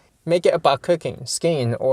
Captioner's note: none